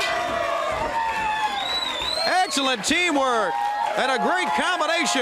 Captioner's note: crowd cheering